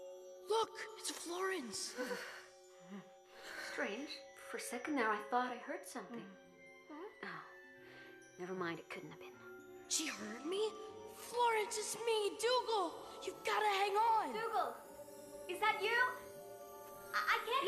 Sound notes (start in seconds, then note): 2.0 girl shivering